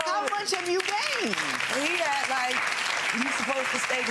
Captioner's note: audience applauding